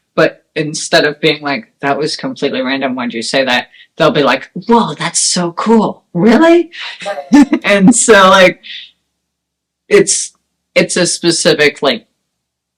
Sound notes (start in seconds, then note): 7.0 laughs